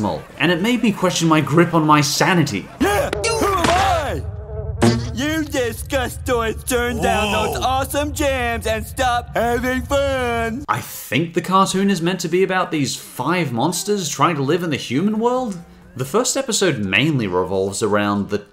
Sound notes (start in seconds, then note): 4.6 cartoonish thunk